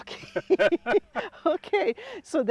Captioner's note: laugh